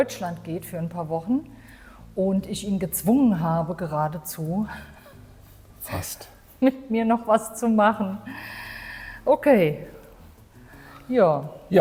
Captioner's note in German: japst